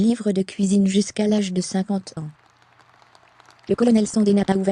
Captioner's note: audience applauding